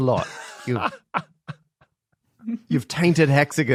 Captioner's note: laughs